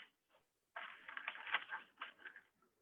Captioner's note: more shuffling